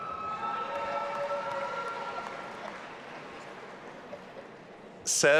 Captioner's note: audience applauding and cheering